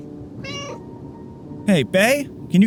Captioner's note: meow